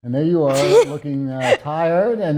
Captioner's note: laughing